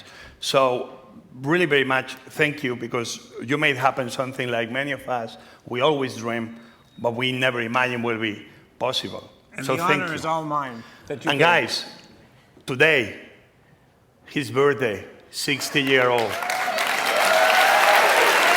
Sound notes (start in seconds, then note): 15.5 cheers, applause